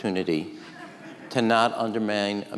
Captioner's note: audience laughing